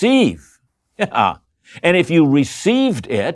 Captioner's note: chuckles